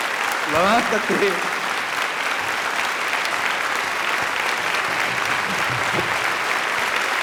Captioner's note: crowd applauds; speaks in foreign language